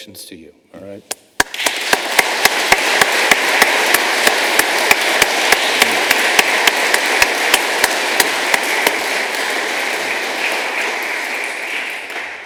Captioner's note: applause